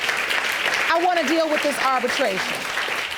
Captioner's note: audience applauding